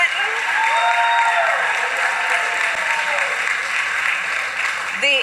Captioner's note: applause